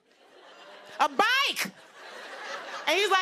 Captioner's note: laughter